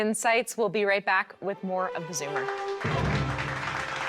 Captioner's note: triumphant music; clapping